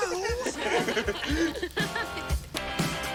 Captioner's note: all laugh